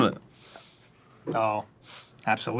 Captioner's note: sniff